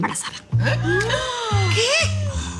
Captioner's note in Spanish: Exclamaciones